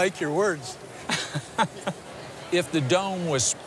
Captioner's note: chuckles